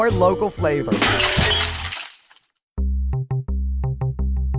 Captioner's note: glass smashes